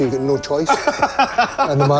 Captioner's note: laughs